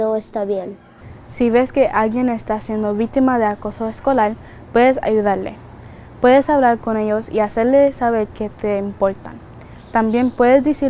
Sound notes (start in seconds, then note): 1.7 speaking in a foreign language